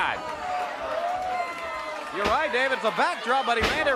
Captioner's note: crowd cheering